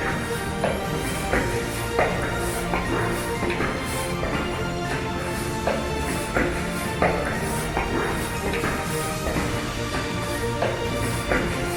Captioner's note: steps